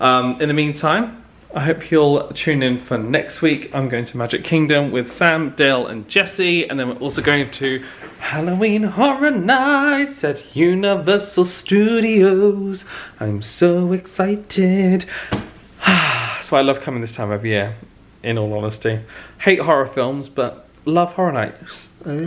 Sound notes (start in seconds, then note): 15.8 sighs